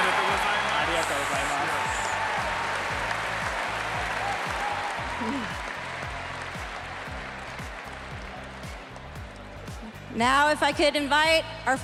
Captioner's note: cheers and applause